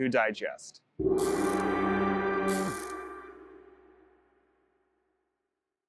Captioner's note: light music; electricity crackles